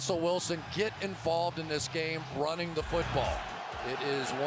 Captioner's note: cheering